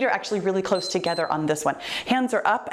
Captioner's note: timer beeps